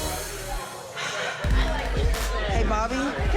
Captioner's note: sighing